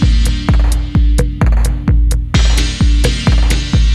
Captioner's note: timer countdown